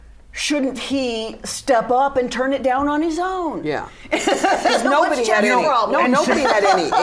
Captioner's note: laughter